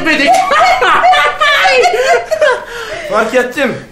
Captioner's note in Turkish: gülme sesleri